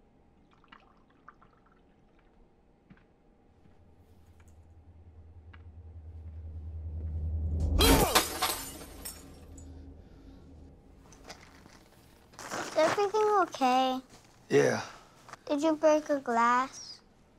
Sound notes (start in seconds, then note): 0.4 drink drizzling; 7.8 glass shatters